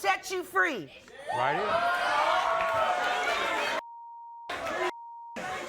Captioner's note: audience cheers